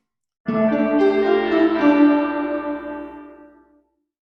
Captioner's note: bells tolling